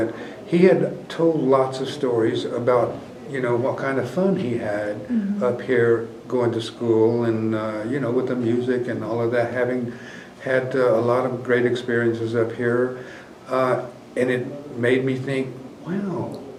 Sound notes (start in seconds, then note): none